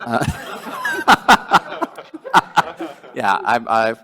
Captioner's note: laughing